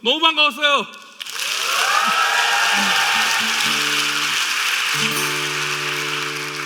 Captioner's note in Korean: 박수 및 환호